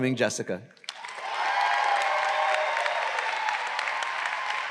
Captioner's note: audience cheering